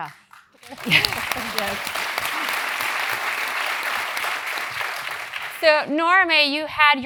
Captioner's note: applause